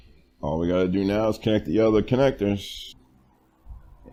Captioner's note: none